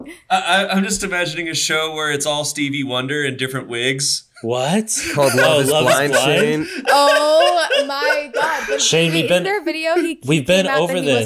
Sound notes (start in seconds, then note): 6.9 laughs